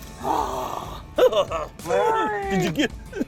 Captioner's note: laughter